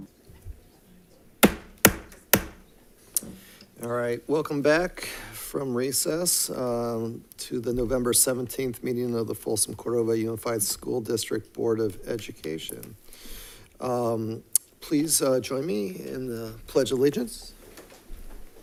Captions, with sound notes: (gavel thuds) All right. Welcome back from recess to the November 17th meeting of the Folsom Cordova Unified School District Board of Education. Please join me in the Pledge Allegiance.